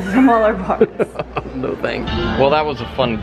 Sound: laughs

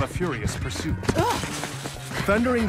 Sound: puddle splashes

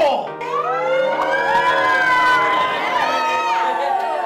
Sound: crowd cheering

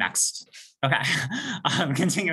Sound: chuckles

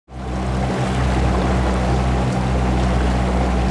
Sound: boat engine revving

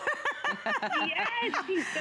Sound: laughter

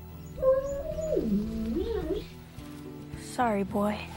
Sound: dog whimpering

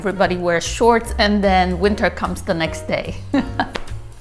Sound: chuckles

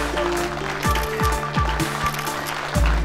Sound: audience clapping

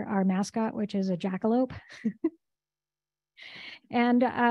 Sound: chuckles

